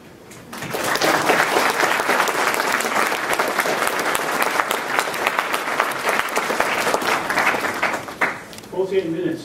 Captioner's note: applause